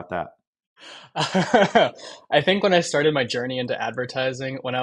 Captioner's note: laughs